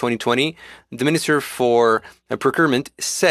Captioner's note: speaking French